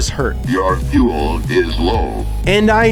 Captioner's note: robot Voice